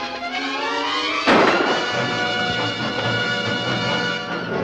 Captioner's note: gun firing